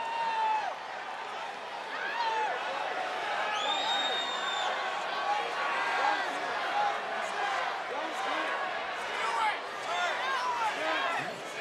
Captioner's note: applause